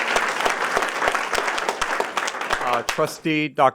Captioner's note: applause